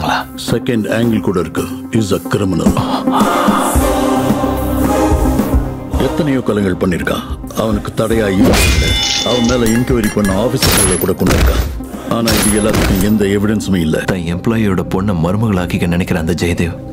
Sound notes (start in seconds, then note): 11.3 gunshot